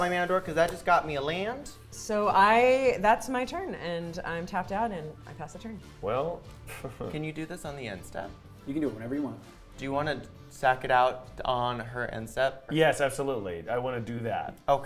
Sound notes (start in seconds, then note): 6.6 chuckles